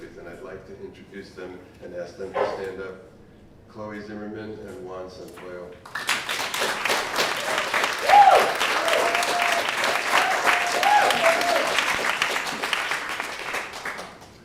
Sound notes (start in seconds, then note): 6.6 applause